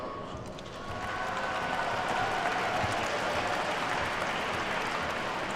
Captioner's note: attendees cheer and clap